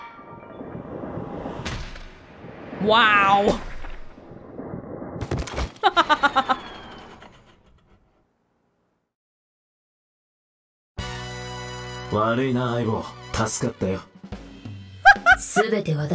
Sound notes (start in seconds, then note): 5.7 chuckles; 15.0 laughs